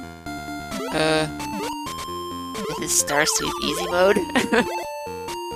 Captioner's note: laughs